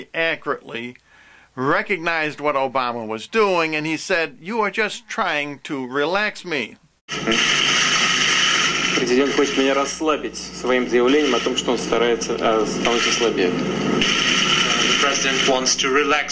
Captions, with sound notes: accurately recognized what Obama was doing and he said, 'you are just trying to relax me'. (Putin talks in Russian) The President wants to relax me with his statements that